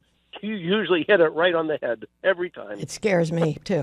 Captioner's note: laughs